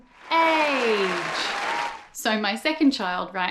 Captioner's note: audience applauds